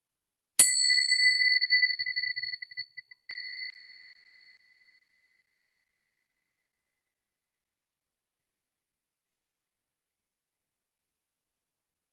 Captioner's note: bells ringing